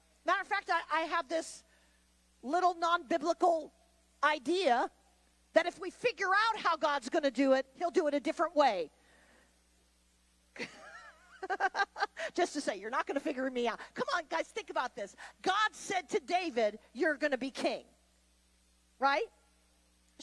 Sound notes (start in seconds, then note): 10.6 laughs